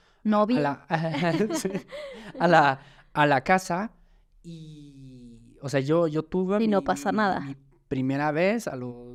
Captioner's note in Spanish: risas